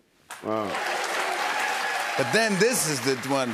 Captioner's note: applause